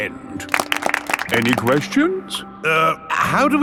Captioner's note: all clapping